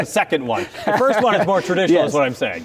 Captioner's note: laughing